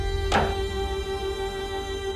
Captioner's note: chest closing